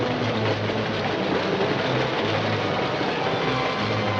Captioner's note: train clacking